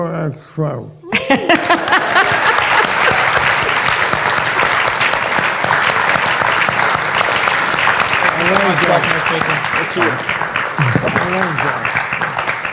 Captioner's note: laughter and applause